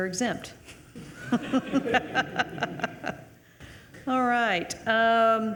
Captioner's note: attendees laughing